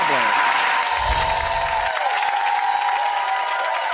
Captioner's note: cheering